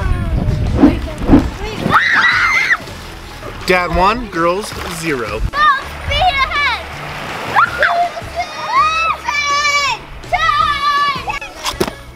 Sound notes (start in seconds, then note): 1.8 girl scream; 7.5 girls whooping; 11.9 water sloshing